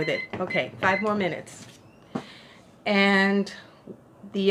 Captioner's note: timer goes off